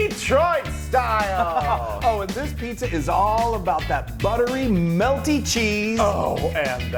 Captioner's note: laugh